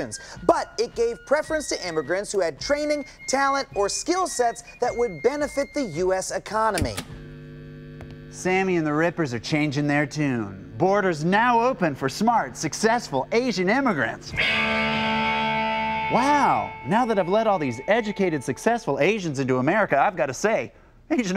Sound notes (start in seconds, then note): 6.8 speaker feedback; 12.2 guitar riff